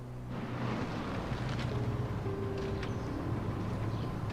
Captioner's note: car engine revving; dramatic music; birds chirping